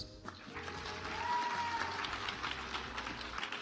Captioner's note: audience applauds